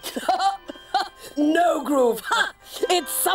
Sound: laughs

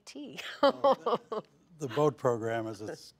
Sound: laughs

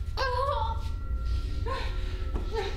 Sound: shouts

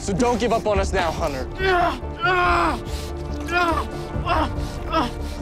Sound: screaming

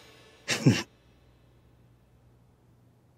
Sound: giggling

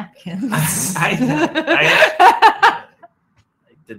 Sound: laughs

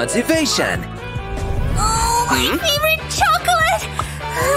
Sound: groans

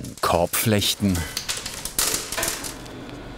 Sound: rustling

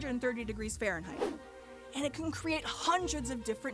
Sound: whooshing

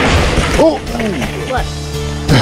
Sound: surprised grunting

